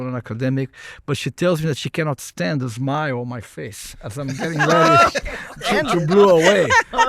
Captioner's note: laughter